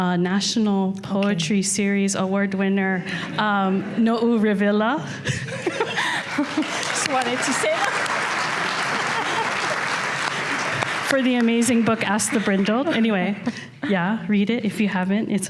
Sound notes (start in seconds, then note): 5.2 laughter; 5.3 audience laughter; 6.1 applause; 10.3 laughs